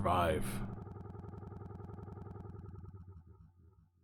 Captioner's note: audio stutters